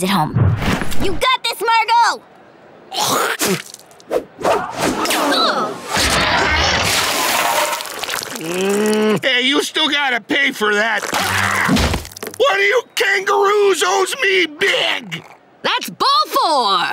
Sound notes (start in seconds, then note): 3.0 spitting; 8.2 groaning